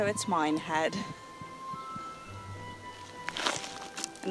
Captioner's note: none